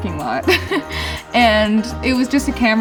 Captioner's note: laughing